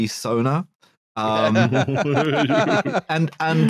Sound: laughter

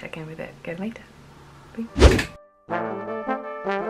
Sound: swoosh!!!

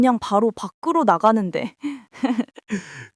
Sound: laughs

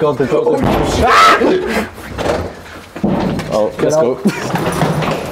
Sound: yells and bangs wall of the lift

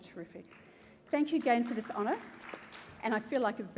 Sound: applause

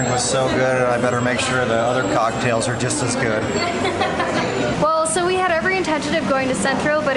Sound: laughter

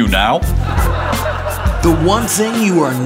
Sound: laughter

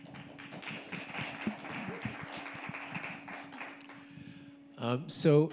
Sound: audience applauding

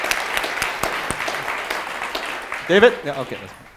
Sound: audience applause

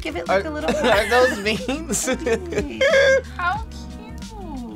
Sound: laughs

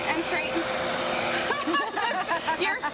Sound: laughing

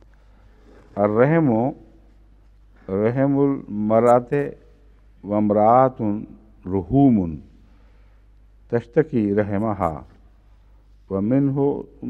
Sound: Arabic

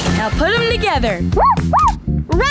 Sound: barking

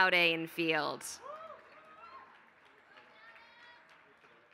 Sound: applause

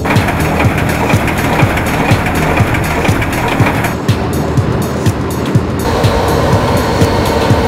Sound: music and sounds of machinery

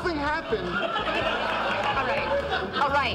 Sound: audience laughing

